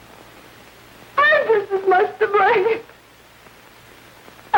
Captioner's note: sobbing